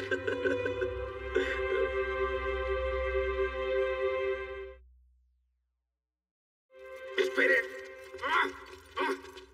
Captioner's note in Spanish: Ríe